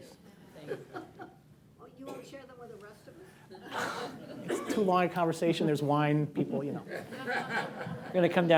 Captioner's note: laughter